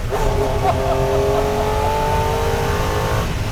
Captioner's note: laughs